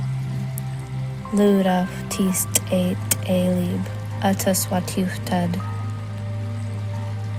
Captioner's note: soft relaxing music continues; narrator continues speaking in foreign language